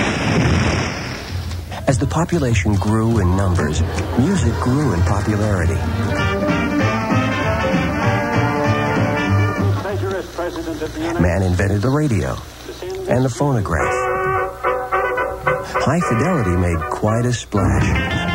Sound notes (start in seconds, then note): 0.0 sound effects: tree falling in woods; 9.9 sound effects: historic radio broadast